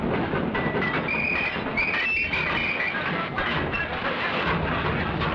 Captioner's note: train chugging; whistles blowing